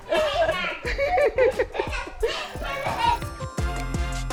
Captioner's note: kids chattering; upbeat music